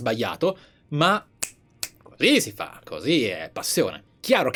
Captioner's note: clicks fingers